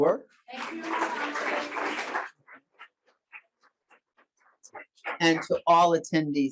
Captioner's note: audience applauding